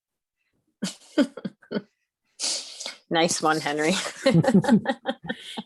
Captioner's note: laughs